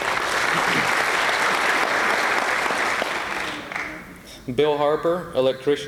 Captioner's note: applause